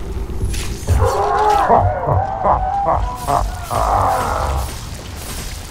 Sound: laughs

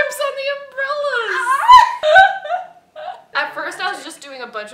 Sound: laughter

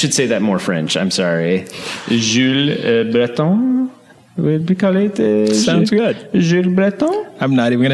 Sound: speaking fake French

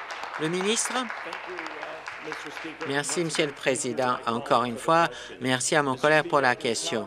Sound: applause

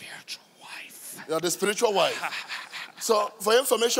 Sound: demon laughing mockingly

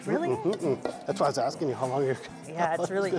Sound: laughs

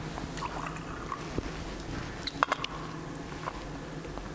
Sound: wine pouring

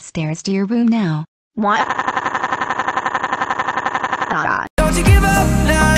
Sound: crying

